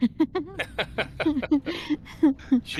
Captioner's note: laughs